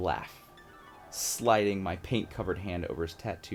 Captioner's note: dreamy sound effect